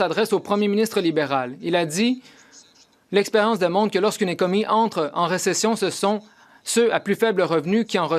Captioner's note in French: voix de l'interprète